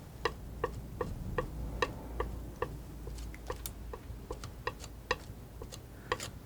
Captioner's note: tapping